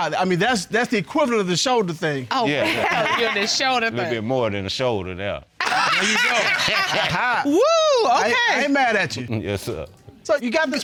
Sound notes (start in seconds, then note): 5.6 laughing